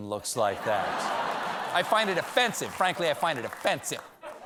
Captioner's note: laughter